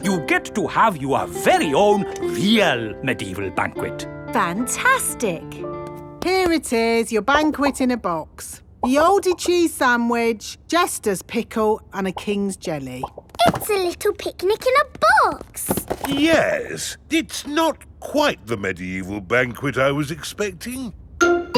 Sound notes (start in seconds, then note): none